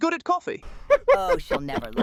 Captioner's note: secretary laughing